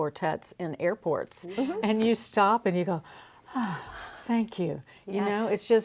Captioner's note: breathes